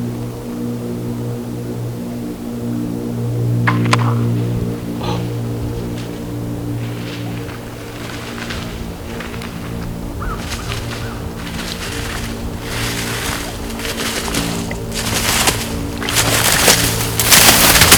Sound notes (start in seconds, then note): 3.6 sound of bow shot; 5.6 wind/road noises; 14.7 deer crashing through vegetation